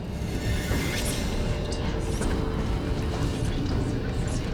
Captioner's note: whispering voices